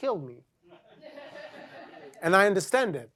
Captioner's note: laughter